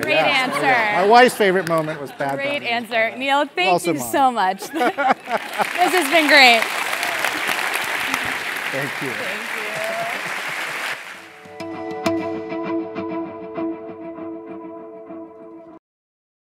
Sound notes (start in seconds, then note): 4.5 laugh; 5.0 applause